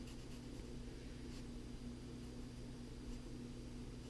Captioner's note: pen writing on paper